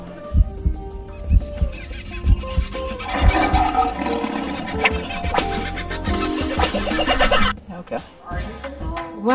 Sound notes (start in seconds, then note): 3.5 wild animal sounds